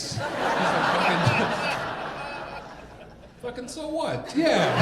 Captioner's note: audience laughing